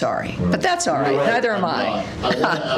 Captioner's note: laughter